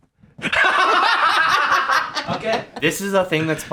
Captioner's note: laugh